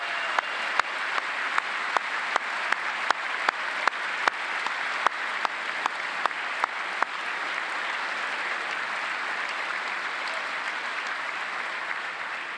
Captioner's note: applause